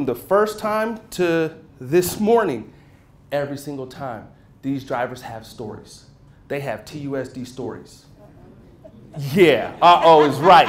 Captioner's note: murmurs